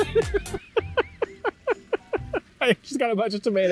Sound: both laugh

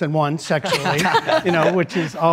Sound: laughs

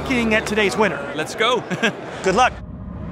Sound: laughing

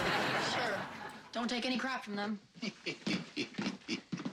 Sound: chuckling

